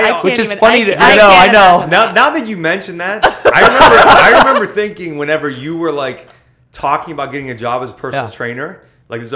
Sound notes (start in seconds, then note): 3.2 laughter